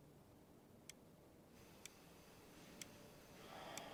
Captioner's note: clock ticking